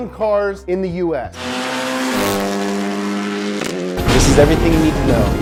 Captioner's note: engine revving